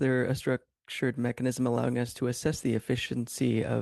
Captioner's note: speaking French